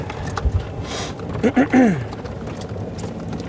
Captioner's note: clears Throat